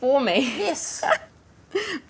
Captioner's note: laughs